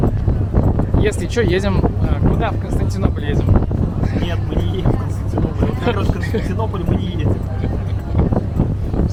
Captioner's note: giggle